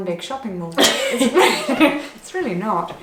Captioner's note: laughs